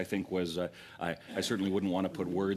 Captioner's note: laughter